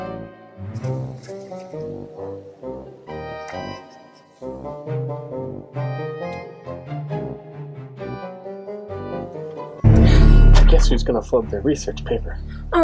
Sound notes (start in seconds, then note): 0.8 pages turning; 9.9 gasping